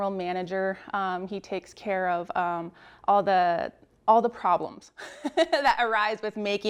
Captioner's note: laughs